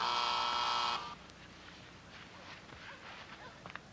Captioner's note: door buzzing